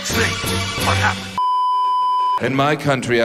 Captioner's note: beeeeeeeeeeeep